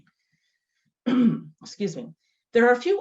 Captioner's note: clears throat